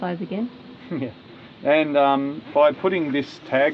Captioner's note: laughing